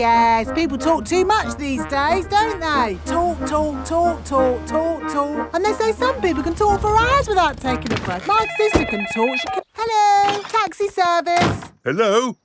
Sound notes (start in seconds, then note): 8.2 cellphone ringing